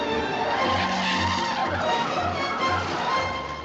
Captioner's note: tires screeching